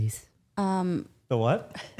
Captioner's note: laughs